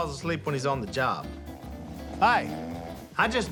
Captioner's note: snoring